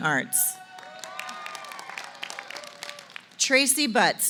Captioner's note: applause